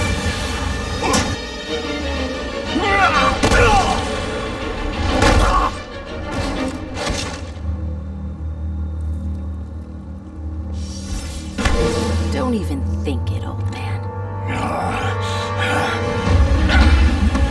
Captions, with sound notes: Don't even think it, old man. [GRUNTING]